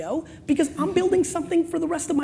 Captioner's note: laughing